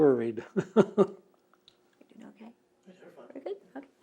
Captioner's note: laughs